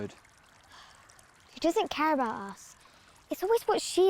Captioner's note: sighing